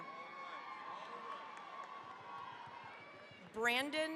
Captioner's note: cheering, applause